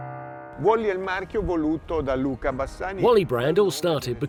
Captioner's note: speaking in foreign language